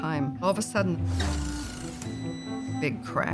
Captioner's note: machine powers down, beeping